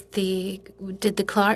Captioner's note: speaking in French